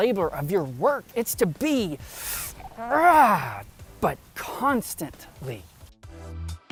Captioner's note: rrraaagh